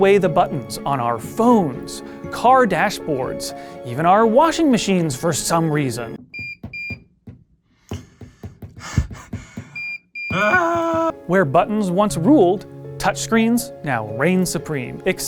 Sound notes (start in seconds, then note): 6.2 beeping; 10.3 frustrated grunt